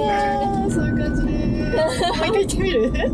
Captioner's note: tears